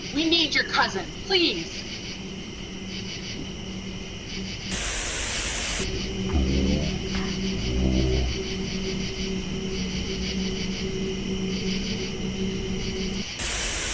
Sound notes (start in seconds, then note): 5.8 growling sound; 11.5 buzzing sound